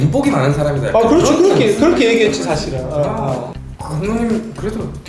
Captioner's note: excited